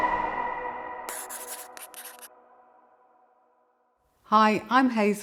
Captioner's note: pen scrapping